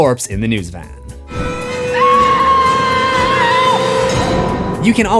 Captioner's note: screams